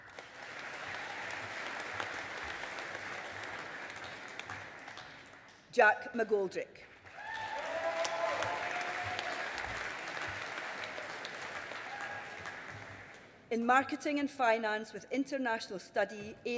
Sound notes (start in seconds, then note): 0.0 audience applauding; 7.0 audience applauding